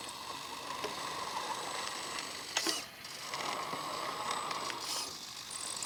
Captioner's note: remote control car moves back and forth